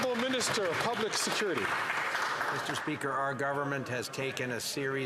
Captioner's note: some Applause